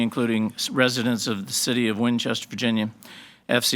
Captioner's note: none